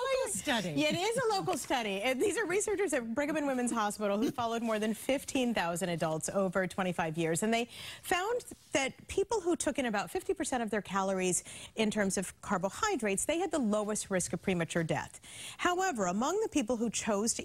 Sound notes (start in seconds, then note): 0.4 laughter